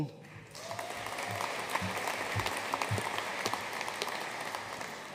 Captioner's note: audience applauding